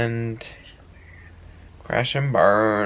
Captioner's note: whispers